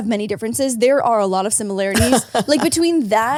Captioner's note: laugh